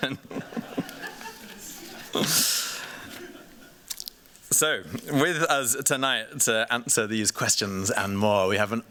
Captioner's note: laughs